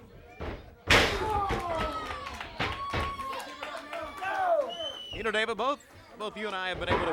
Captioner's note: crowd cheering